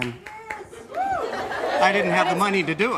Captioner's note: cheering